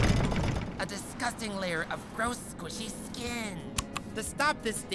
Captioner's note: whispering